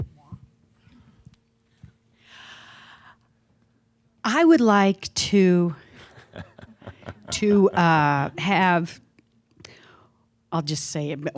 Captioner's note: is chuckling at her headband